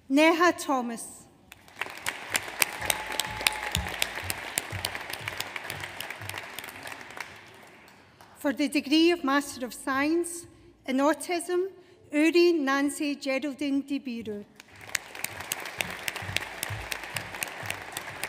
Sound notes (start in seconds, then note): 1.5 audience applauds; 14.6 audience applauds